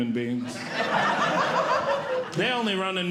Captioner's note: audience Laughing